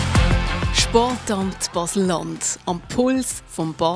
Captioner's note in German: Applaus